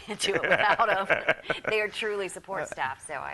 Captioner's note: laughter